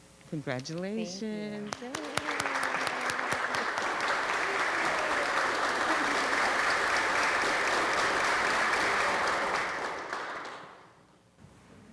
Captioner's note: applause